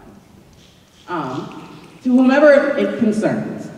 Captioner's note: snapping